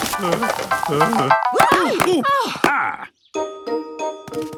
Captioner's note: groaning; exclamations